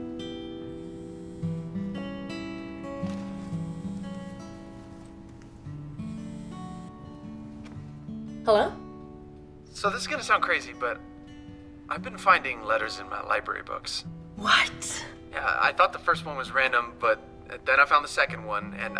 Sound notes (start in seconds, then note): 0.5 cell phone buzzes